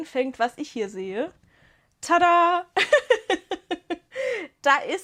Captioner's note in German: Gelächter